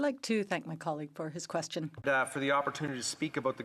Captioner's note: speaking French